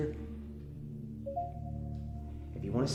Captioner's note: phone dinging